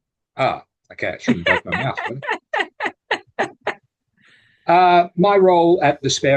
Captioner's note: laughters in the background